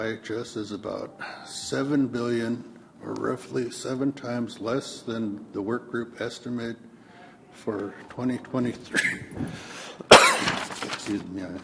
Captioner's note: coughs